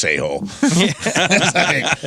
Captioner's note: laughter